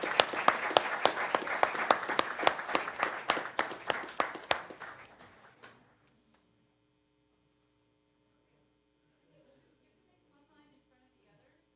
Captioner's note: applause